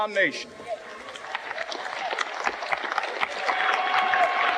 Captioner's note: audience clapping